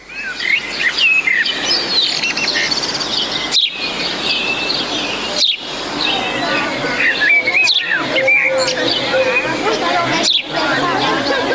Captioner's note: nature sounds